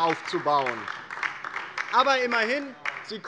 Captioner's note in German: Beifall DIE LINKE